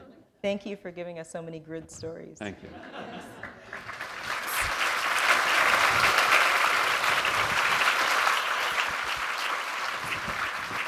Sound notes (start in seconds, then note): 2.6 laughter; 6.1 applause